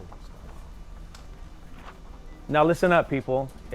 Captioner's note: quiet chatter